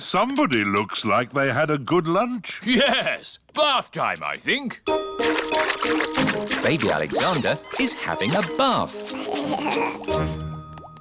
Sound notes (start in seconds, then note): 5.2 splashing; 8.7 giggling